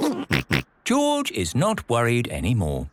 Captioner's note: giggles